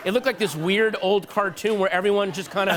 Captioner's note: laughter